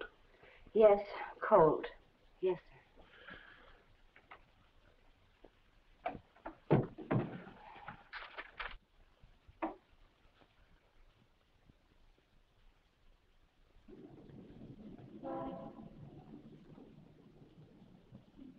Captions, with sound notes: - Yes Colt. Yes, sir. (paper rustling) (car horn honks nearby)